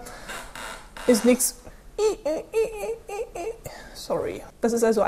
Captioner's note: squeek squeek